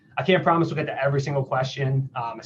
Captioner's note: none